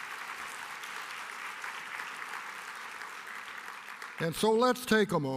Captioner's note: applause